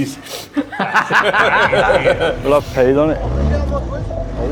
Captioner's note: all laughing